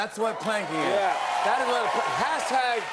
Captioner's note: cheering and applause